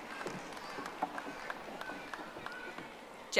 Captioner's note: audience applauding